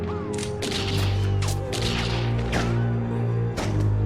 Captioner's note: gunshots